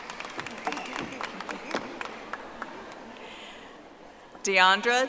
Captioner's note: audience applauding